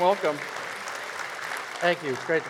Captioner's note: audience applause